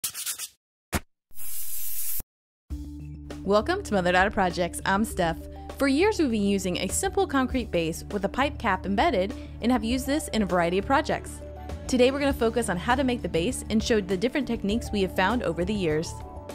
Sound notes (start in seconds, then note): 0.0 sandpaper gritting; 1.3 spray can hissing